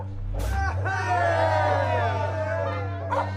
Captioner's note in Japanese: しゃべり声